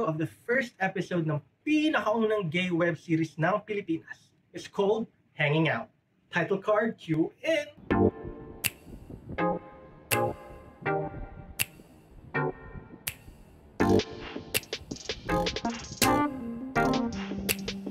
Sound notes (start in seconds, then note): none